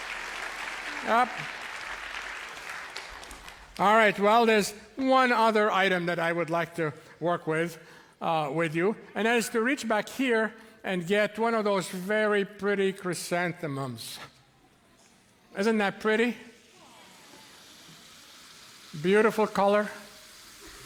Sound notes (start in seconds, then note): 16.6 boiling liquid nitrogen hisses